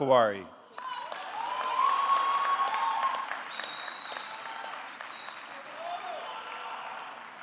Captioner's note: audience clapping; audience cheering